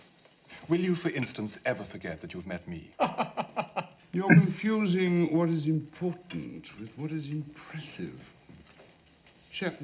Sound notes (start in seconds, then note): 3.0 chuckling